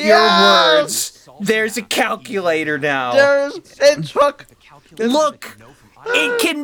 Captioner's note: pure disbelief sounds